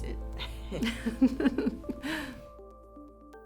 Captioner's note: laughter